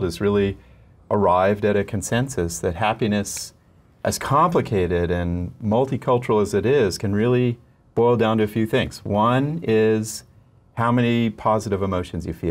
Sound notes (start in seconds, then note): none